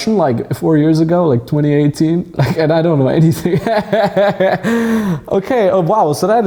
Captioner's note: laughs